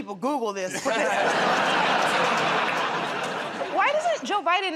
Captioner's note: laughter